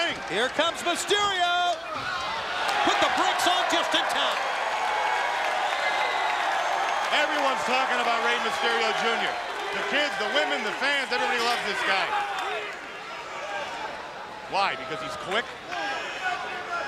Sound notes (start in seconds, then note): 5.1 audience cheering